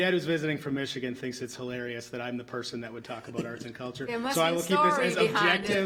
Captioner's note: laughs